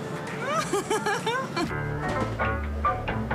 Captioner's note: laughts